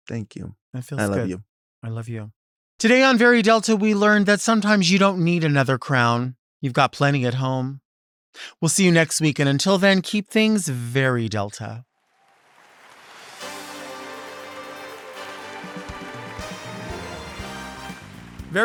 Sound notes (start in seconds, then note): 12.0 audience applauds; 16.1 upbeat music